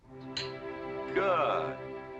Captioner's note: glasses clinking